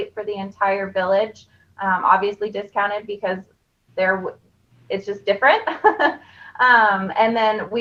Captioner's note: laughing